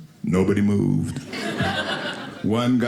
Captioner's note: audience laughing